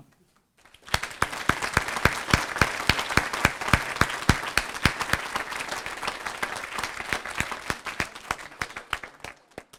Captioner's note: applause